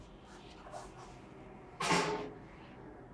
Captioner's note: metal chair clanks